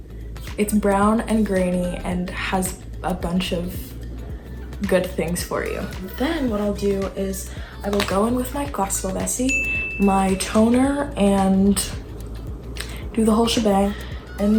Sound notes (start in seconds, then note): 9.4 chime